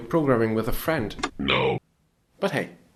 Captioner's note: robotic voice